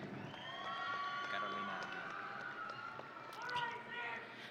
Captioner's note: audience cheering